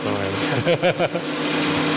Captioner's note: laughs